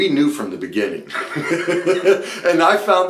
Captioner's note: speaker laughs